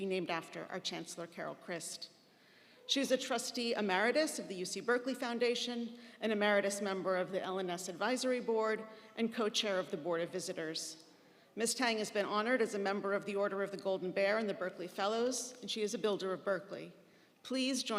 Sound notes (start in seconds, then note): none